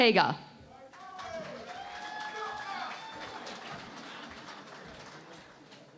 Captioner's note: cheering and Applause